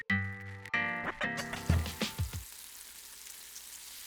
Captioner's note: sizzling